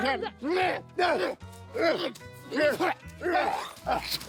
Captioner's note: grunting